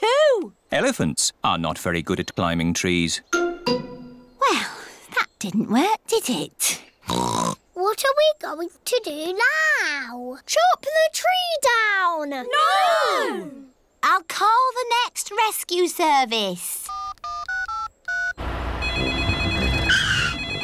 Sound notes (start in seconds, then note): 7.1 oinks; 16.8 dialing; 18.8 phone rings